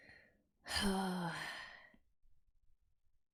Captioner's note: sighs